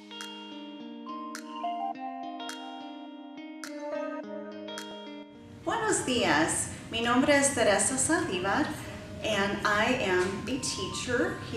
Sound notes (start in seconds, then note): 0.0 calm music; 5.7 speaks in spanish